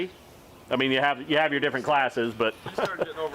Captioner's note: chuckles